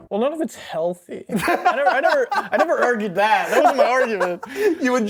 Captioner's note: laughter